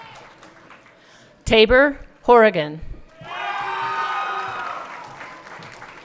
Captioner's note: everyone cheering